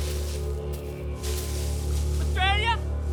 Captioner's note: leaves rustling